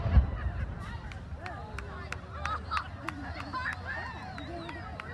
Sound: sounds of canon firing; laughter, clapping

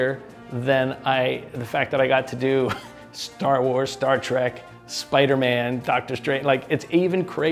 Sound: music volume lowers; chuckles

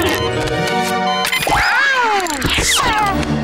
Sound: meowing

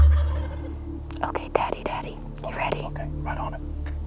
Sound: whispering

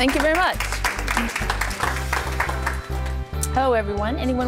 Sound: applause

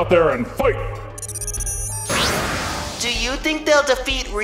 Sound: beeping, poof!

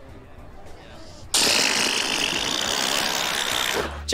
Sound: blows a raspberry

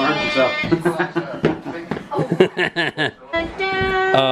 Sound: laughing

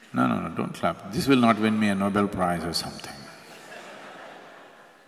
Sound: laughter

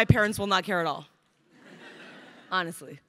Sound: crowd laughing

